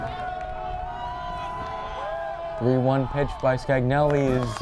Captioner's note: crowd cheering